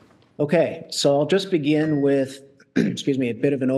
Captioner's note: coughs